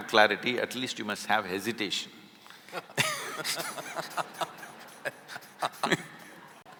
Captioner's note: both laugh